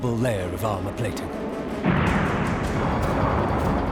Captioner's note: explosion